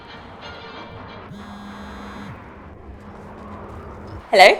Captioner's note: phone rings